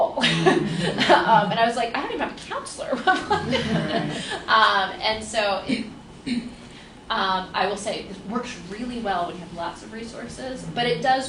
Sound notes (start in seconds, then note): 0.1 laughs; 3.0 laughter